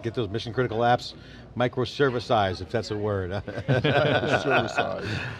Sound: laughs

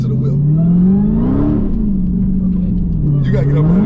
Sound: car engine revving

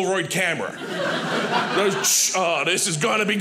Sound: audience laughing

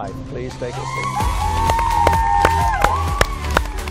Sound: cheering, applause

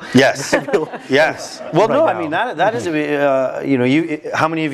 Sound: laugh

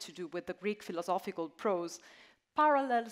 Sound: none

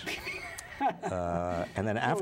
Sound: laughter

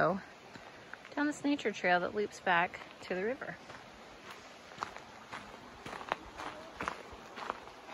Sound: crunchy footsteps on gravel path

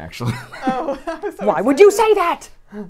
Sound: laughs

